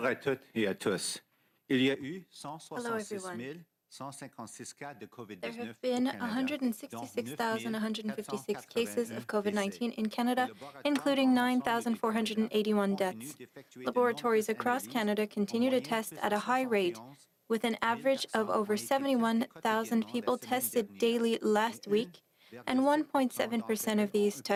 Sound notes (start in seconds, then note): 7.5 speaking French